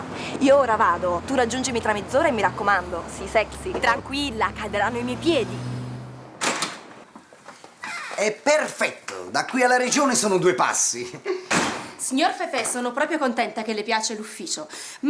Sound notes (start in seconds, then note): 6.3 door opens